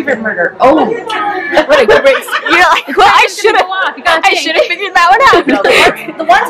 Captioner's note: laugher